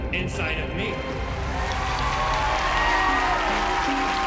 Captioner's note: cheering and applause